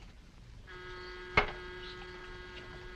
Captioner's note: door bell buzzing